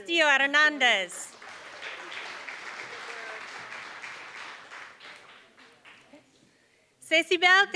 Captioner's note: applause